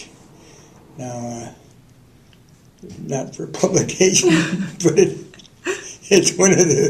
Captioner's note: laughter